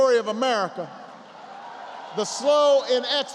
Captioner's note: applause